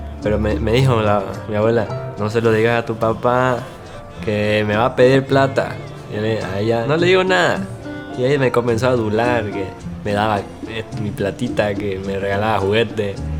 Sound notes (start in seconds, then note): none